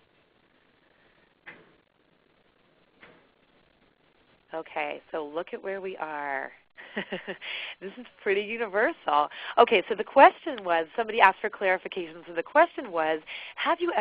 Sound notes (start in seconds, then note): 0.0 silence